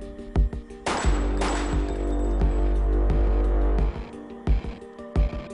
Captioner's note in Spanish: Disparos